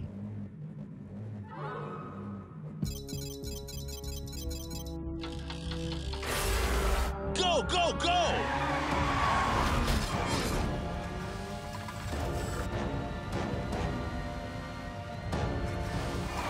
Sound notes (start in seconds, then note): 2.8 targets beeping; 5.2 dramatic music